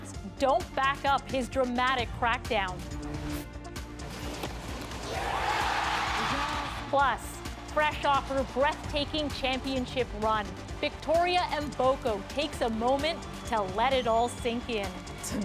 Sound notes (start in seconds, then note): 7.8 cheers and Applause